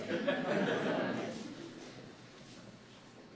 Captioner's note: laughter